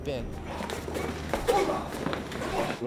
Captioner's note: grunting